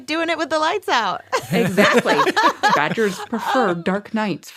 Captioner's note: laughs